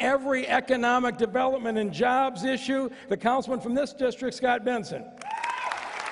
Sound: applause

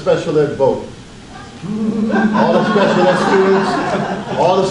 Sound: audience laughs

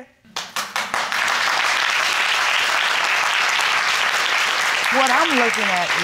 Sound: crowd clapping

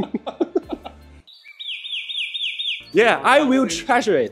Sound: bird chirping gleefully

